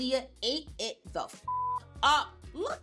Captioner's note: beep